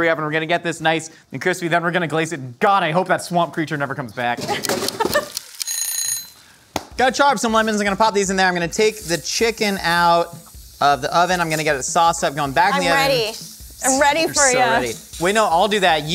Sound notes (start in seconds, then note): 5.1 timer Ticking; 5.6 timer Ringing